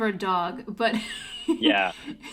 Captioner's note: laughs